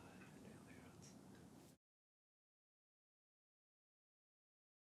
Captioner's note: breathes deeply; whispers